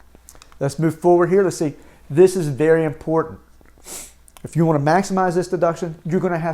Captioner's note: sniffs